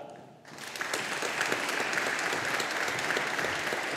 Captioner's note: audience applauding